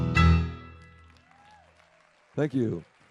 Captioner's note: audience applauds